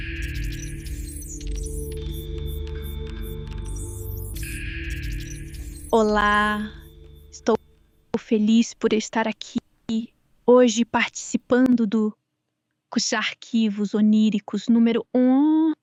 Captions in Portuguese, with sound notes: -[ruído eletrônico] -Olá, estou feliz por estar aqui hoje, participando do Arquivos Oníricos número um.